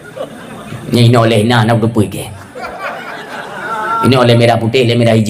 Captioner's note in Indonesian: tertawa